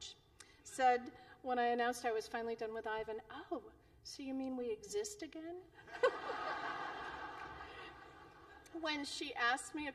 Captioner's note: laughter